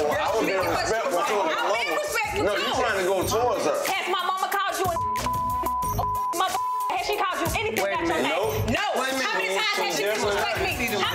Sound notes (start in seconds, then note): 4.8 beep